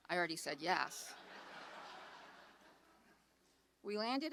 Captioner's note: audience laughs